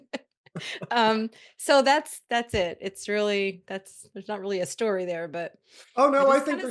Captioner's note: laughter